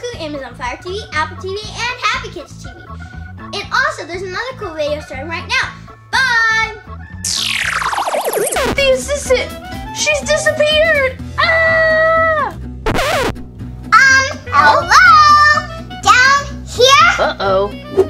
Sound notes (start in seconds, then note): 11.4 screams; 12.8 record scratches